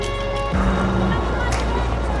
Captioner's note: Max's phone buzzes